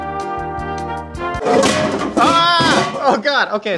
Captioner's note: intermission music; pans crashing